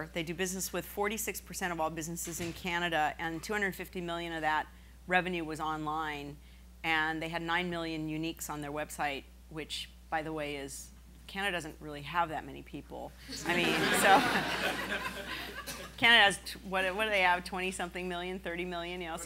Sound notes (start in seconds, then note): 13.4 laughing